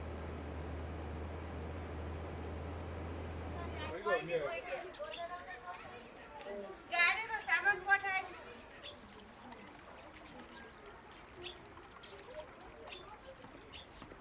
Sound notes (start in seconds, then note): 5.0 chatter, birds chirping; 9.0 water flowing nearby